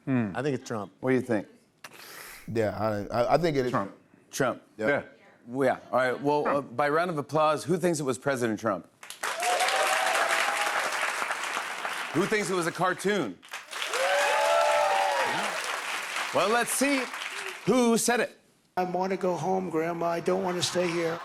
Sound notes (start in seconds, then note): 9.1 cheers and applause; 13.4 louder cheers and applause